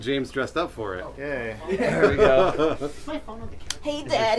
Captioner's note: laughing